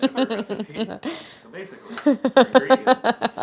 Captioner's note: laughs